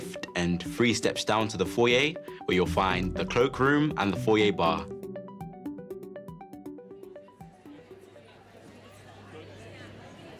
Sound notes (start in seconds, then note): 7.4 hum of conversations